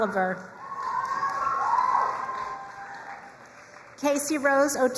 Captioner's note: crowd cheering and applauding